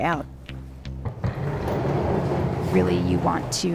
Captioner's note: door clanks